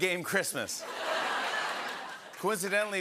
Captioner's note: laughter